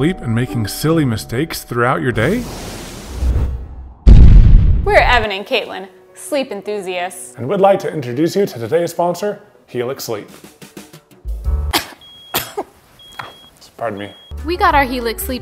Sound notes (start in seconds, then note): 2.4 explosion; 12.2 coughing